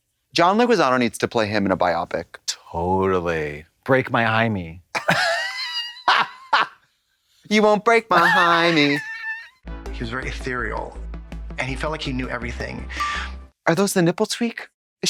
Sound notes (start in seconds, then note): 5.2 blonde Women cluck; 8.1 Katya hee-hees